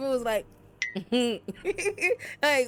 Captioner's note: bell dings; laughs